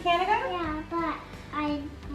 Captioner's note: mumbles